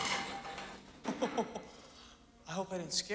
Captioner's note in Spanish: se ríe